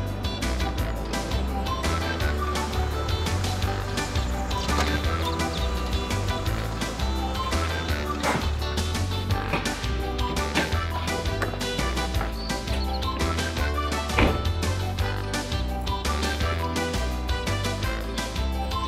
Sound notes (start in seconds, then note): 0.2 upbeat music; 9.3 door thudding